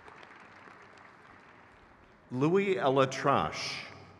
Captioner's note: crowd claps